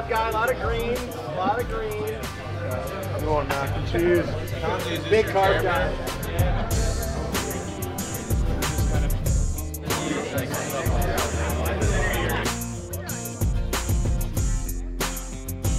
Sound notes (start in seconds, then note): 5.2 laughs; 13.0 upbeat music